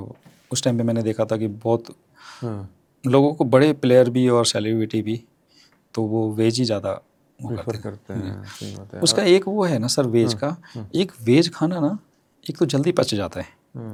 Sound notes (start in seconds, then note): 8.2 sound of clearing throat